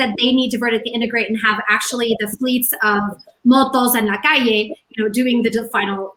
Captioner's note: in spanish